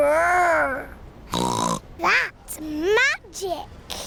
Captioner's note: snorts